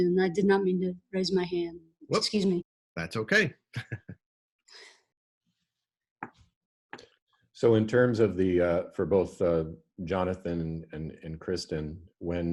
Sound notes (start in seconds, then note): 3.7 laughing